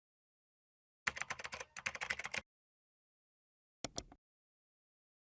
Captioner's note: mouse clicking; keyboard keys clicking